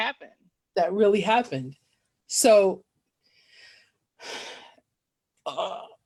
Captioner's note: sigh